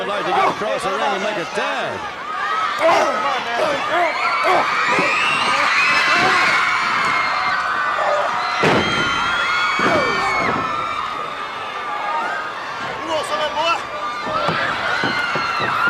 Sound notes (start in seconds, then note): 3.3 crowd chatter; 6.0 crowd cheering